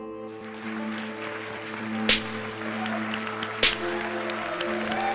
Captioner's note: audience applauds and cheers